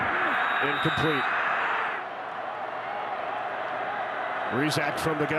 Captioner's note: referee blows whistle; fans cheer